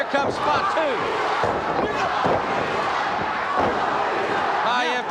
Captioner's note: audience chanting